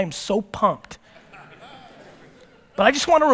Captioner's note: audience laughter